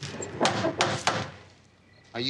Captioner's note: knocking on door